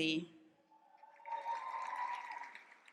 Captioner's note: applause and cheering